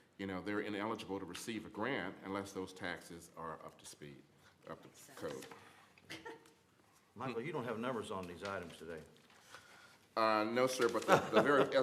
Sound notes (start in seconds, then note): 6.0 laughter